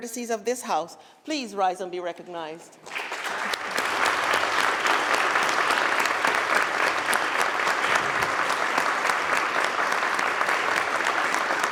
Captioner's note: applause